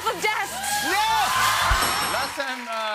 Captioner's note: cheers and applause